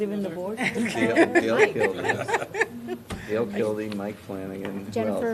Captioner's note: laughter